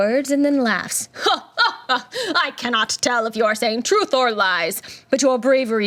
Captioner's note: laughs